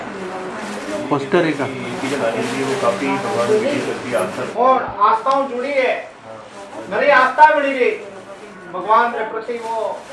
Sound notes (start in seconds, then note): 1.5 foreign